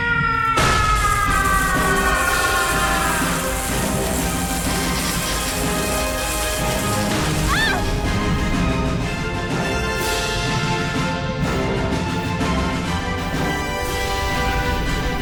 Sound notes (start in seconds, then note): 0.0 scream; 2.9 electric noises; 7.2 scream; 8.9 epic music